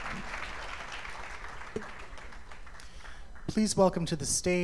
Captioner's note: applause